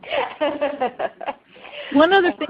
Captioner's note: laughing